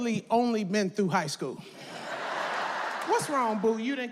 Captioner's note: audience laughs